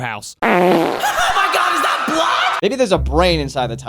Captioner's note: fart